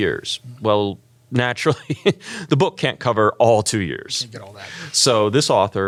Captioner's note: laugh